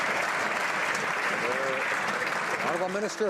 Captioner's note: some Applause